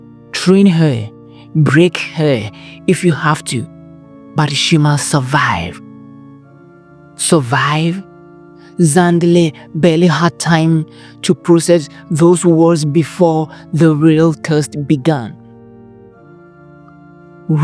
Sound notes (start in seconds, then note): 7.5 narrator – Heavy, Suspenseful Tone